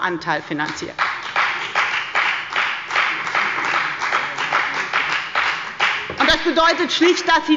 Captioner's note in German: Beifall bei der FDP